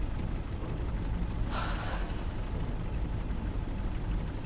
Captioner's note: sighs